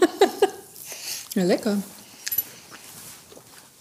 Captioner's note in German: lachend